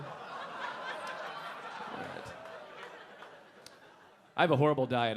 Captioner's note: audience laughing